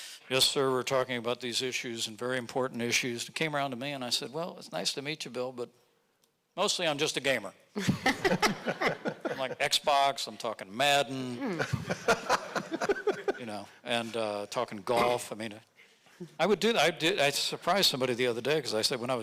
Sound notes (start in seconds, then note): 7.9 audience laughing; 11.6 audience laughing